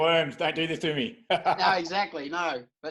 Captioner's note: laughing